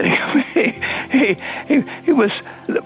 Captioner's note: Warren laughing